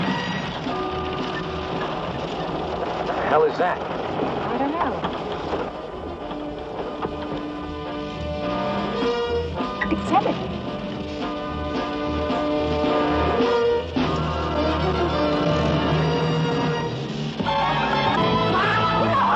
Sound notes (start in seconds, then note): 14.5 dramatic music; 16.1 shouting